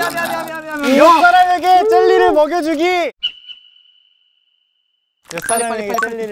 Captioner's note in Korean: 행동 후 외침